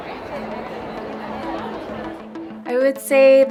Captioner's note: laughs